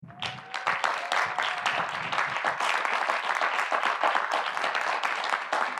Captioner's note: audience applauding; audience cheering